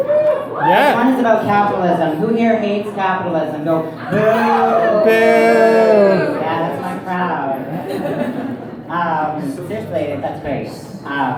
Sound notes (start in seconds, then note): 0.2 applause; 4.0 crowd boos